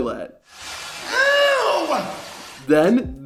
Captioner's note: Goldust groaning